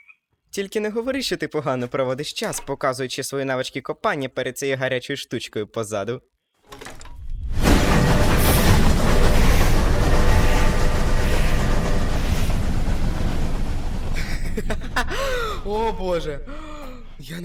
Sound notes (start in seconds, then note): 6.4 train horn; 14.1 laughing